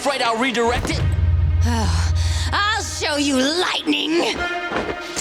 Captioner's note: sighing